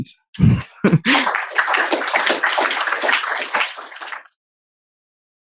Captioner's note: applause